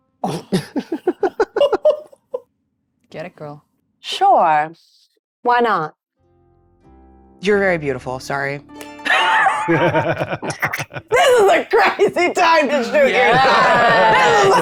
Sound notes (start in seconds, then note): 0.5 players giggling; 9.1 players laughing